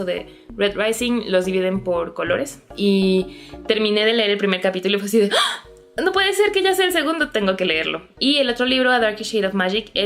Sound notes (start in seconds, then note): 3.3 gasp!